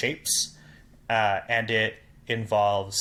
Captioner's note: none